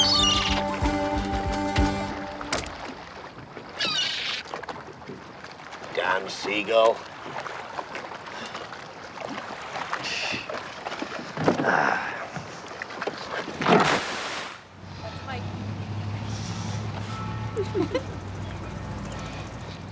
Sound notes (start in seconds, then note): 0.0 cawing; 8.3 sighing; 17.5 both giggling